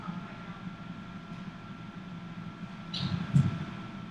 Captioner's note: heartbeats